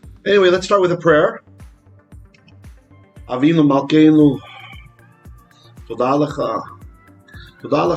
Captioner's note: Hebrew